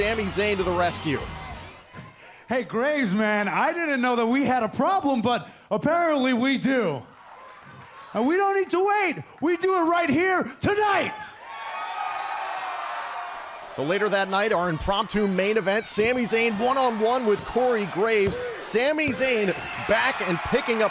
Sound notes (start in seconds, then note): 12.1 cheers and applause